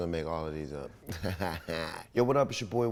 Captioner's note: laughs